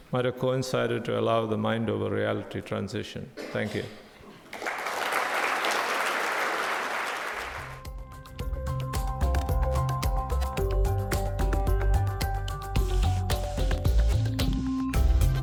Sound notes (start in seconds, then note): 4.4 audience applauds; 7.6 techno music